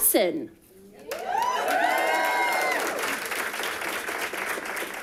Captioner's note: audience applauding